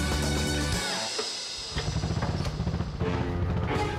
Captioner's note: engine puttering